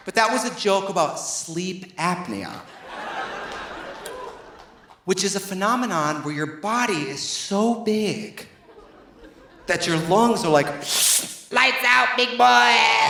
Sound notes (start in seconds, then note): 2.6 audience laughing; 10.8 imitates whooshing